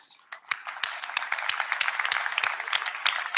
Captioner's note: applause